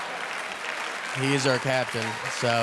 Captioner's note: audience cheering